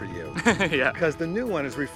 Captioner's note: laughs